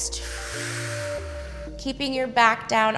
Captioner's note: exhales